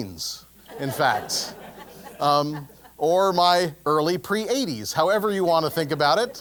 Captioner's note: laugh